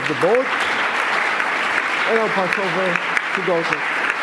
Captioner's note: applause